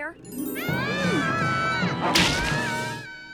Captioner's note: dreamy harp; all screaming; worm chomps; Max screaming; dreamy harp